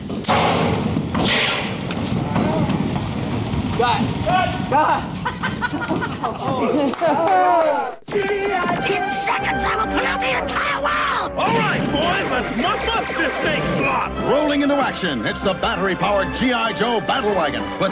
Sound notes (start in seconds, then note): 0.1 explosions, rocks tumbling; 7.4 laughs